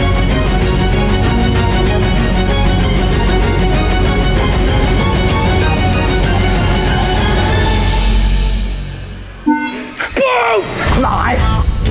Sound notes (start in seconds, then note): none